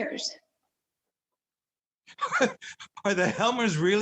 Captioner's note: Nils chuckles